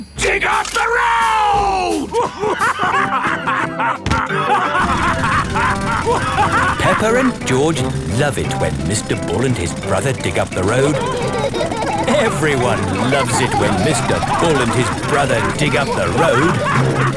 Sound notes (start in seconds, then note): 3.0 both laughing; 6.3 drilling; 12.0 laughing